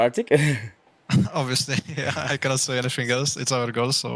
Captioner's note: laughs